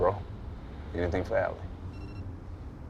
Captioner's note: phone beeps